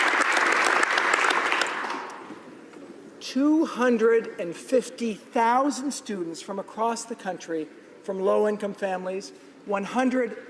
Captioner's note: applause